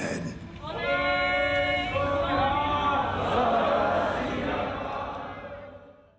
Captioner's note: call and response chanting